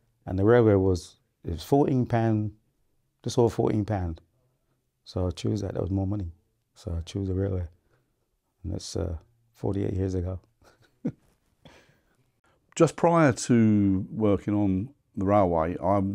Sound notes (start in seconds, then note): 10.6 laughs